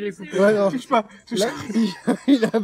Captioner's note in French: Rires